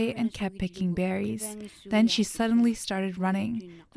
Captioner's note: speaking Indigenous language